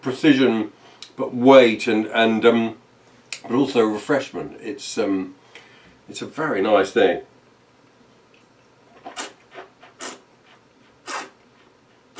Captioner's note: slurping